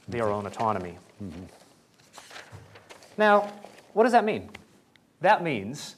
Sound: pages turning

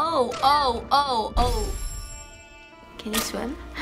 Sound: chime

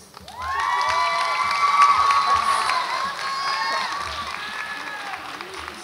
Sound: audience applauds and cheers

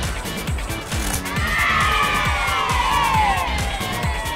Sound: cheering

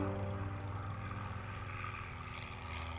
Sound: airplane engine rumbling

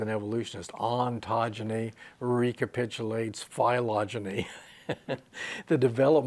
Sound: he laughs

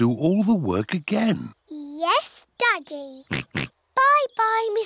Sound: oinks

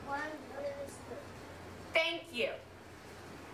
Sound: kid speaking with voice distorted

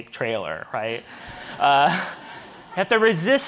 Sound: audience laughing

